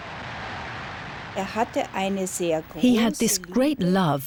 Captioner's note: woman speaking german